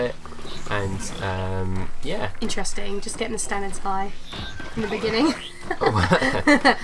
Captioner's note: laughs